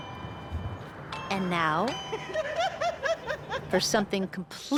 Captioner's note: laughter